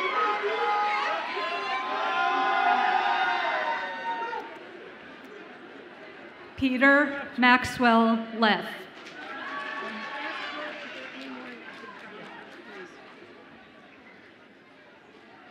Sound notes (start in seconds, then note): 8.8 audience applauds and cheers